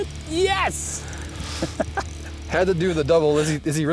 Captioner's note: laughs